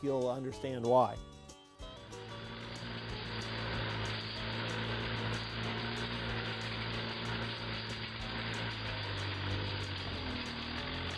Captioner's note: tractor noise